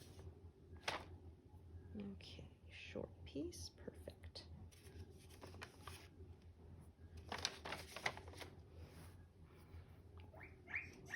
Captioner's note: guinea pig squeaking